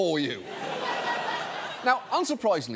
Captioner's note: audience laughs